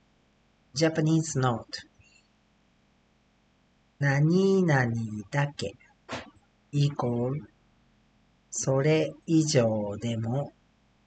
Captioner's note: foreign language; speaking Japanese